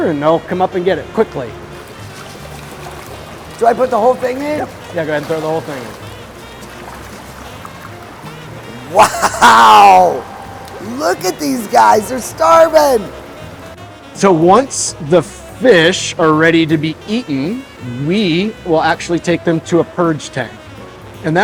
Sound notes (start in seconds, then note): 2.2 water sploshing; 6.8 water sploshing; 8.8 laughing